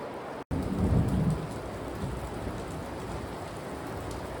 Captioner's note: loud thunder and heavy rainfall